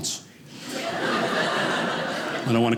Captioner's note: audience laughing